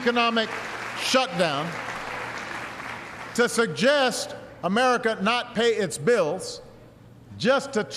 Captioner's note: applause